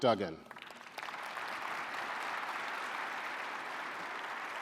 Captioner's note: audience applauding